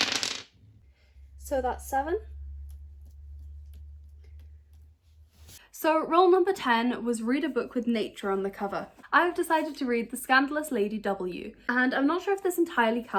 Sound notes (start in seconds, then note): 0.0 sounds of dice rolling